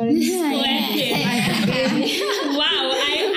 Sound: laughing

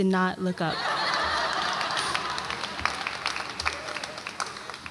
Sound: audience laughs

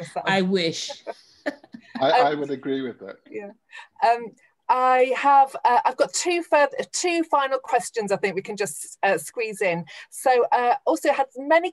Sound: laughs

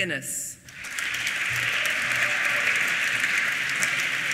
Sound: applause

